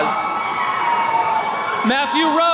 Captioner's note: attendees cheering